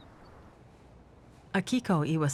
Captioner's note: birds chirping